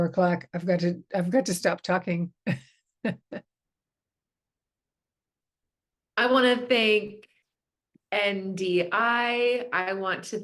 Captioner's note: chuckles